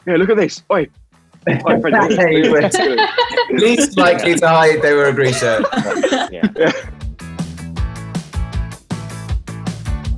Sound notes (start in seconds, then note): 1.5 all chattering; 5.9 all laughing; 7.3 upbeat music